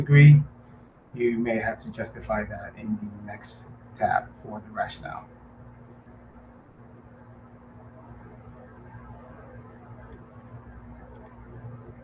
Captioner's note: pause